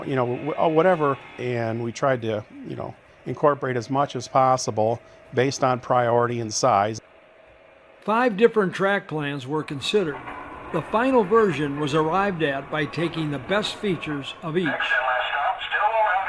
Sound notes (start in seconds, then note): 8.2 voiceover